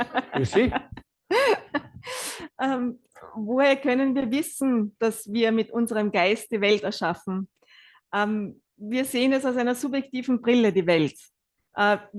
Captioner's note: German live translation